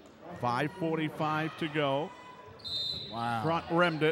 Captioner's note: whistle blows